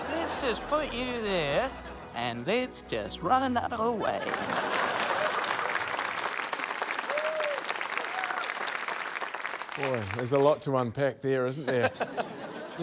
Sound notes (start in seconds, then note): 4.2 applause; 11.6 chuckles